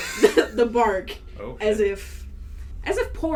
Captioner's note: wheezes out a laugh; struggles through, stifling laughter; quietly, slightly disgusted